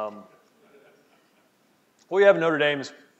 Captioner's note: laughing